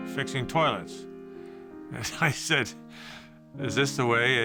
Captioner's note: chuckles